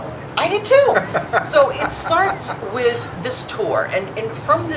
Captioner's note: laughing